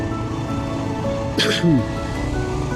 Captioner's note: cough